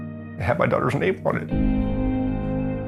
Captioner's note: choked up